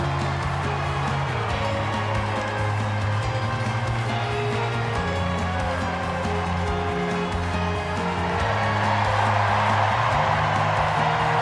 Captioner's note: cheers and applause